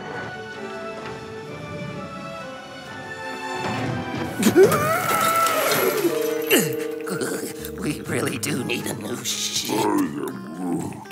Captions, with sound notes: (BOTH GASPING) (TREMBLING) We really do need a new ship. I am Groot.